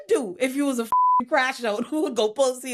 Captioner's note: beep